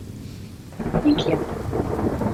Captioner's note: crashing of thunder